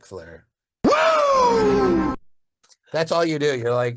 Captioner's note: virtual attendee cheering